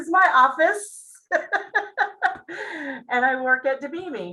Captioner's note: laughs